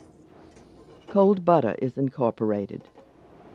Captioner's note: voiceover